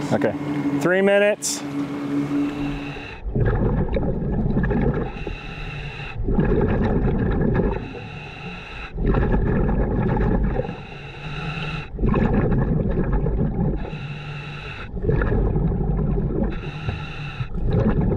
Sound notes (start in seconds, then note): 5.0 continuous heavy breathing through mask; 6.6 continuous water bubbling